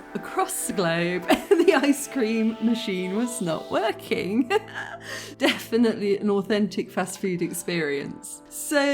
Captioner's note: laughing